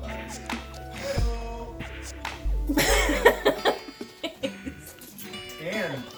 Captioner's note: me taking a deep, dramatic breath and laughing